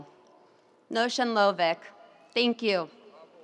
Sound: speaking in Native language

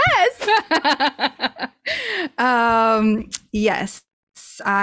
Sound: laughs

